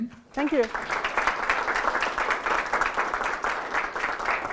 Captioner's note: applause